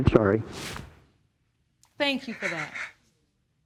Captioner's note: sobbing